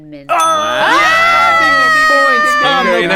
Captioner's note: bell dings; screams; chanting